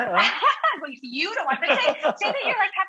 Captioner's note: laughs